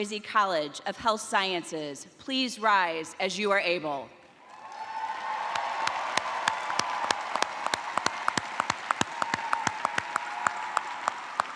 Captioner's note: cheers and applause